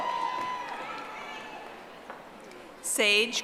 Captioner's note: audience applauding